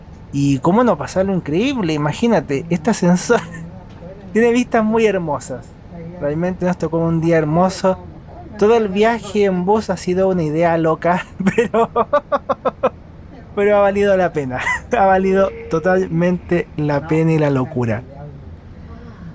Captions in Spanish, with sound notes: y cómo no pasarlo increíble, imagínate este ascensor tiene vistas muy hermosas realmente nos tocó un día hermoso todo el viaje en bus ha sido una idea loca (risas) pero ha valido la pena, ha valido totalmente la pena y la locura